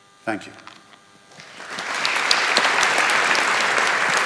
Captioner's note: audience applauding